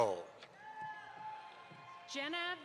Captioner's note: audience applauds